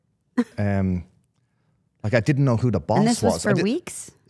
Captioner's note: Stephanie chuckling